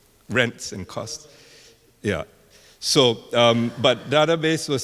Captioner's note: male speaking softly